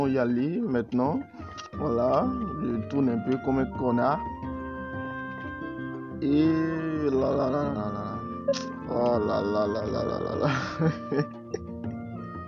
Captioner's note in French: rire